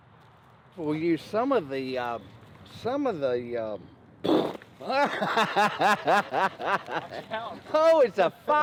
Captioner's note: bursts in laughter